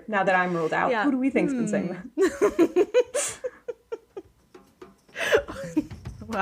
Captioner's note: laughing